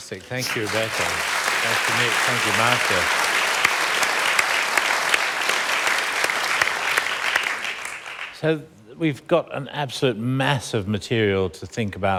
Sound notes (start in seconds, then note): 5.3 applause; 8.8 applause continues